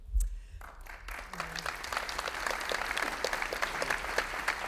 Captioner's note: audience applauding